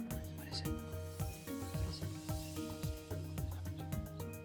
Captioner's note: whispering